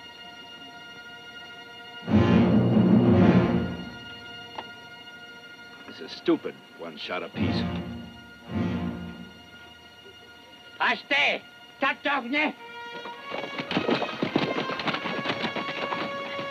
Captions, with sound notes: - This is stupid, one shot apiece. (Delgadito speaking foreign language) (dramatic music)